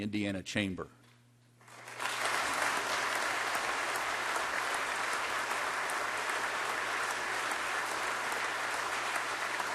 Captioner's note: applause